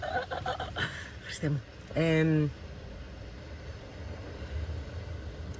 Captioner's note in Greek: γέλια